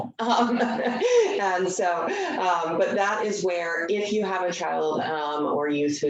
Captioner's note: chuckles